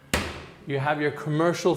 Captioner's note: latch clicking